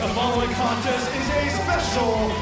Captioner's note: crowd cheering; bell ringing